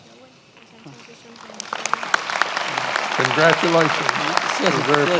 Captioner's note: many applauding